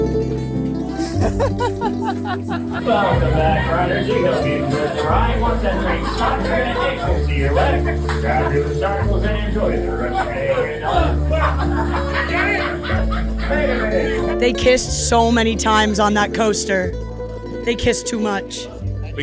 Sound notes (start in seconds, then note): 1.1 laughing